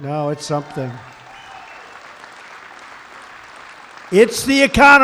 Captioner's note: applause